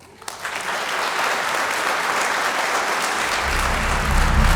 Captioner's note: audience applauding